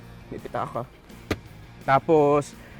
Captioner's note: center glovebox closes